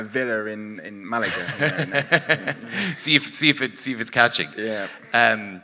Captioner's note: laughs